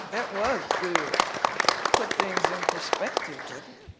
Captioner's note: applause